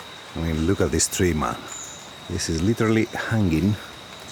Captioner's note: birds chirping